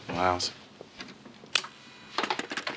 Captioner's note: polygraph hums